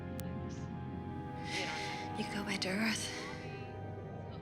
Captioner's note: sighs